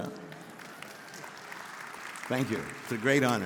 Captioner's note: audience applauding